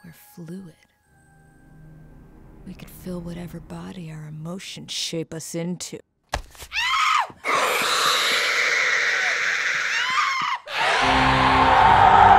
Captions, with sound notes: We're fluid. We can fill whatever body our emotions shape us into. (thudding) (screaming) (growling) (screaming)